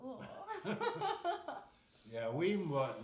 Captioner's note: laughing